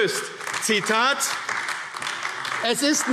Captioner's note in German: Beifall AfD